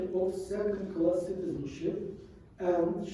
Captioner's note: none